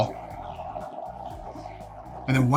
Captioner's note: mixture bubbling